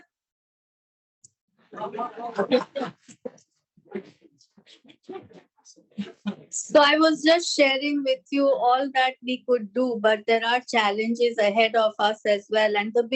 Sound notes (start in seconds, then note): 1.8 laughter